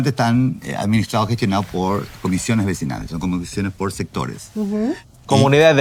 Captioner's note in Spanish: carraspeo